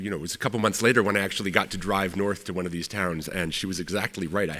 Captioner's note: none